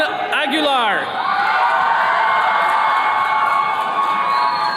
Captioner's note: attendees cheering